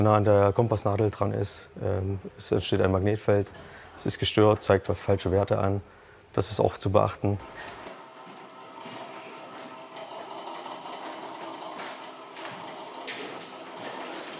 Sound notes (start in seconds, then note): 9.4 rattling